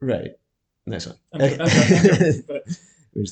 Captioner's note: laughter